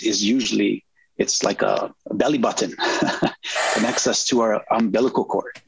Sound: chuckles

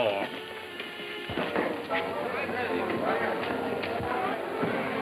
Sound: bright music; people chattering

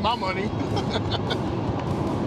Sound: laughs

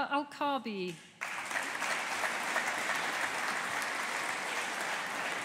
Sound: audience applauding

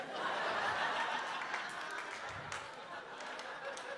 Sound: audience laughs

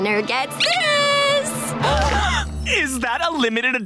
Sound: gasping

